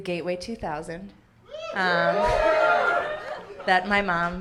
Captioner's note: audience cheering